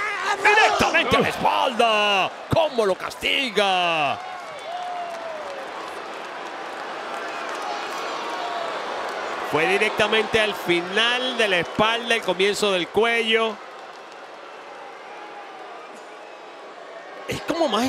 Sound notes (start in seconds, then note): 4.9 applause